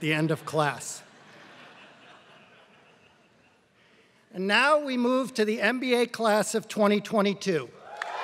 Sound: laugh

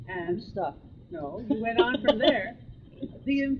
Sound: laughs

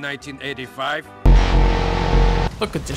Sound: droning

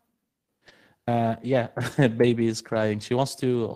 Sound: laughs

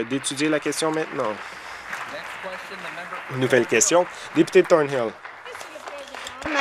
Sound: applause

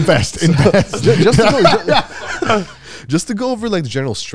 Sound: all laughing

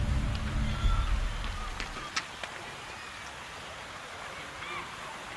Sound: footsteps thudding

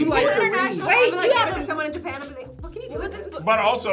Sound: group converses

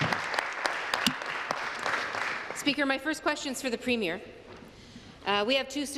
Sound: applause

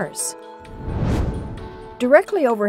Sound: whoosh

